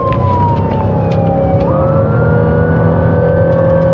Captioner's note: engine revvvvining